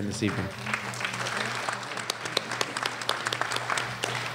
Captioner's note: applause